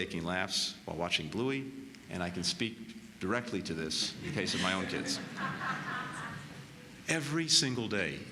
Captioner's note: laughter